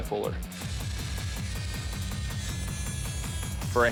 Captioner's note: grinding